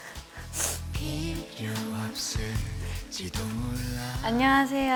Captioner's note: heart flutters